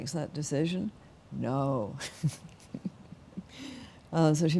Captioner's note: laughing